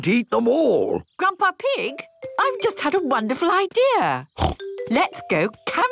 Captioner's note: snort